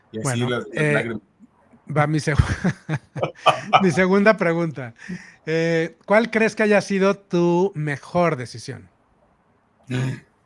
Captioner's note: laughs